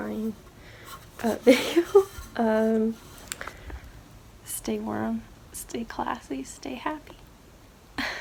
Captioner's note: laughs